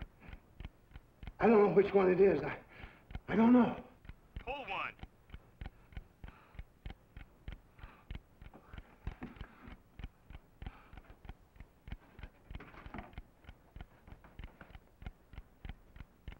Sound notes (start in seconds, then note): 8.8 ticking